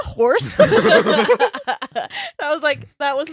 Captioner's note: laughing